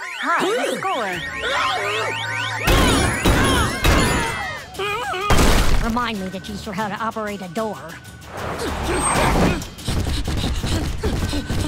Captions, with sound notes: High score. - [gasps] [screaming] [kids yelling] - Remind me to teach her how to operate a door. - [grunting, panting]